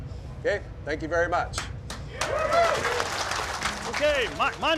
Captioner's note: clapping and cheering